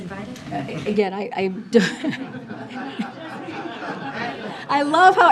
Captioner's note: laughter